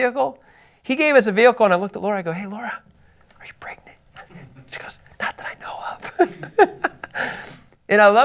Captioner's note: laughs